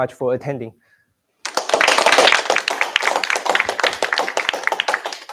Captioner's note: applause